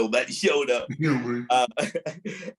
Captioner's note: laughs